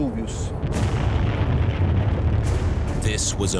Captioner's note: explosion echoes